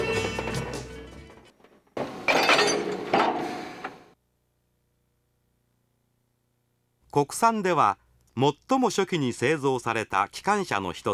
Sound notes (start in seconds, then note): 3.4 connecting sound / Air coming out sound